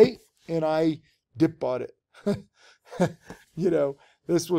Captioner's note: giggles